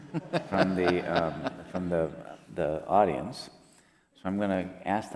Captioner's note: laughs